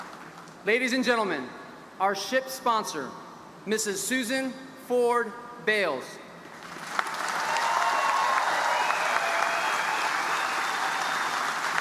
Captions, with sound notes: Ladies and gentlemen, our ship's sponsor, Mrs. Susan Ford Bales. (audience applauding)